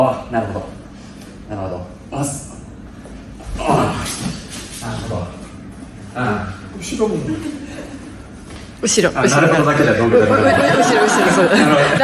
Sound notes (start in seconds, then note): 9.6 laughs